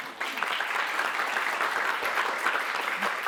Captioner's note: applause